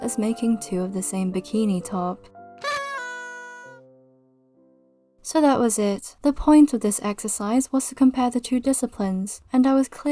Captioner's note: party horn